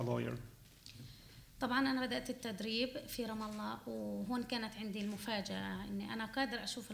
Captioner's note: speaking arabic